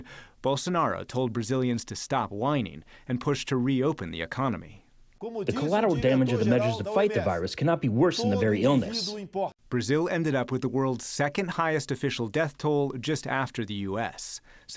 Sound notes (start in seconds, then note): 5.1 through translator